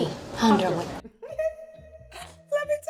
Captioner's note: laughs